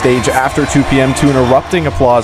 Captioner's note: nat sound cheerin